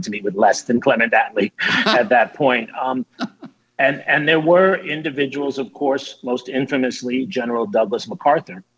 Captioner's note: laughter